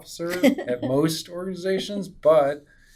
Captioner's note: laughs